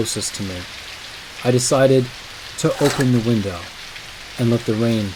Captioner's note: window opening sound